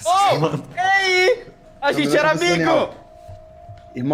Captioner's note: laughs